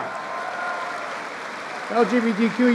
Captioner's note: applause